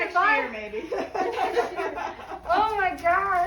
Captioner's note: laughs loudly